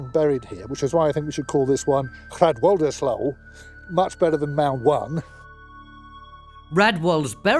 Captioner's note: speaks in Anglisc